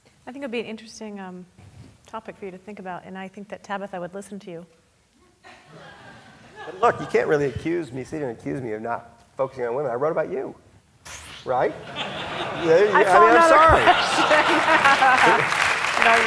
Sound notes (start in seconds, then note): 5.6 audience laughing; 11.8 audience laughing; 11.9 chuckling; 13.3 laughing; 15.0 audience laughing